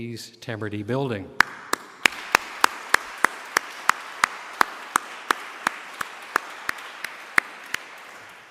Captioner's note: applause